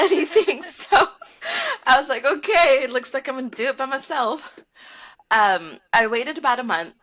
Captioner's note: laughter